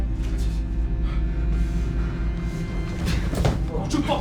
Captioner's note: Sam breathing heavily